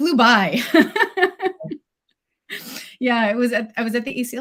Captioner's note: laughs